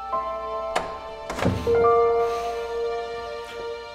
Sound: door closing

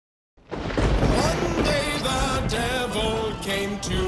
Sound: lightning crackling; playful music

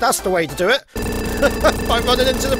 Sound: chuckles

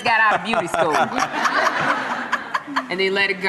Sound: laughter

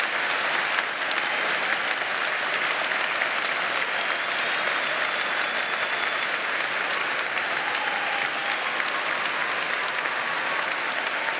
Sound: cheers and applause

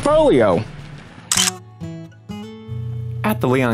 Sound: camera clicking

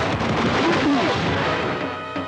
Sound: grunts

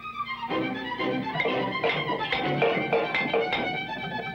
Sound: klank, Klank Klank, Klank

